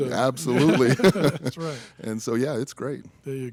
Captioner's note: chuckle